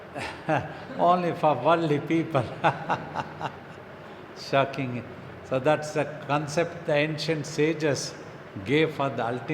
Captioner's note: laughs